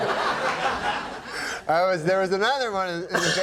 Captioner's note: audience laughing